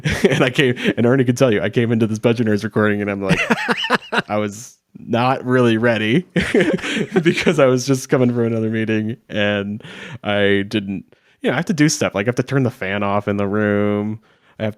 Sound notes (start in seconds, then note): 3.3 laughs